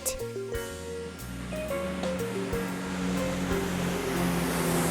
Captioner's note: truck engine revving